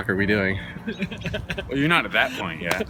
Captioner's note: laughter